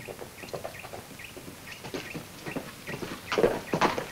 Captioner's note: bird tweets; hooves clomp